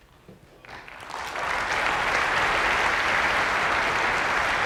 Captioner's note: applause